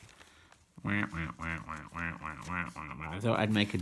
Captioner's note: quacks